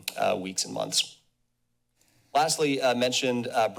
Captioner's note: pause